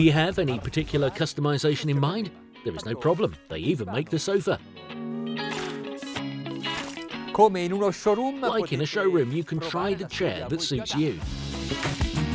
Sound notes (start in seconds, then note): 0.0 speaking in foreign language; 5.2 upbeat music; 7.7 speaking in foreign language